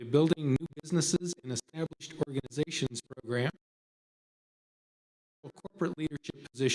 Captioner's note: audio cuts out